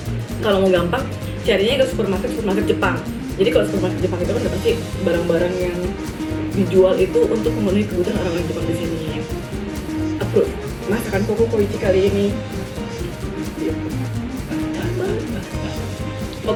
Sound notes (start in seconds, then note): 12.5 laughs